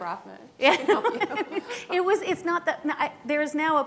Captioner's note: laughing